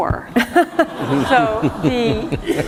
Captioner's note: laughter